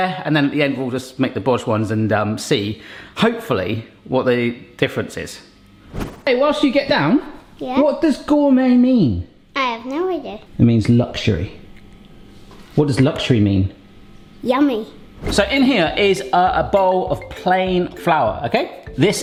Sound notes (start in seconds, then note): none